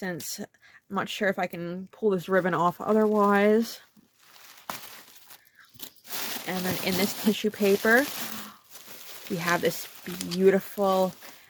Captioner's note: gasp